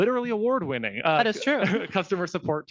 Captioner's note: laughing